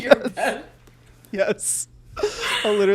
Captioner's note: both laugh